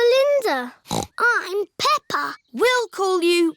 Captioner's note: snorts